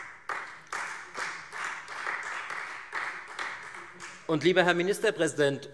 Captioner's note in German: Beifall Freie Demokraten